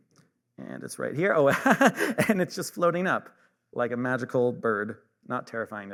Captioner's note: laughs